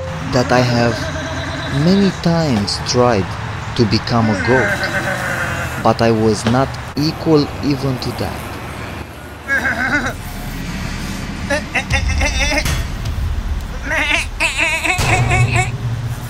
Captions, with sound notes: that I have many times tried to become a goat. But I was not equal even to that. [Goats bleat]